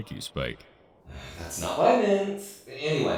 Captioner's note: sigh